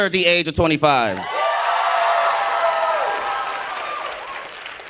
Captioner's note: audience cheering